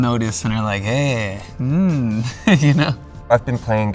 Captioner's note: laughs